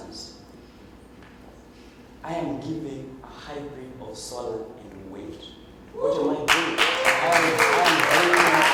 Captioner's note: cheers and Applause